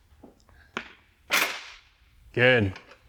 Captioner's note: impacts table